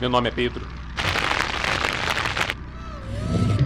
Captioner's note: flames crackling